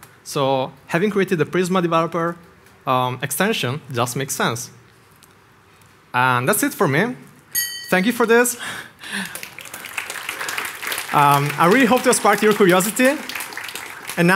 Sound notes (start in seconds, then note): 9.0 crowd applauds